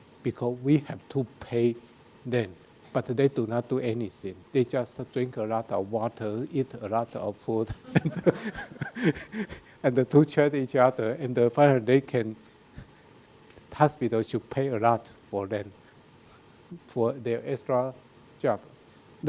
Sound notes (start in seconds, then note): 7.7 laughs; 7.7 audience laughing